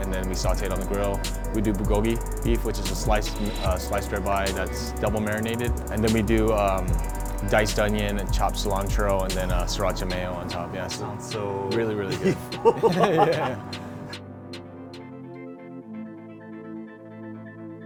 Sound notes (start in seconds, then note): 12.0 laughs; 14.6 soft techno music